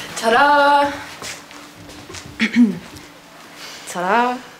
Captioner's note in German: Er räuspert sich